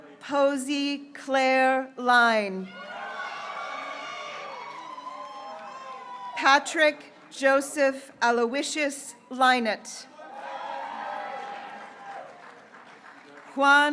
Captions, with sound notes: Hope Elizabeth Keeley, (graduates cheering) Mohamed Kilani, (graduates cheering) Andrew Jeongyoon Kim,